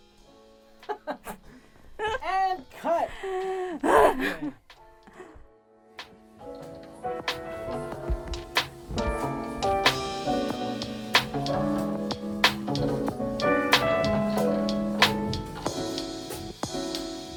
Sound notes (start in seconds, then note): 1.9 laughing; 6.0 soft music